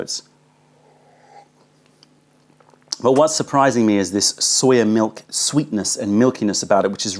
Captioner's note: sips tea